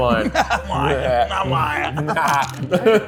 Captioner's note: laughs